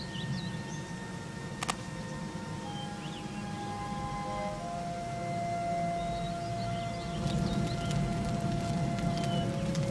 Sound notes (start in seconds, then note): 1.5 hands clasping; 7.0 fire roaring